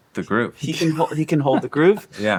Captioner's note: laughing